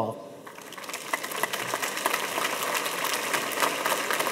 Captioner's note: audience applauding